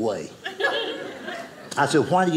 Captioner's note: audience laughing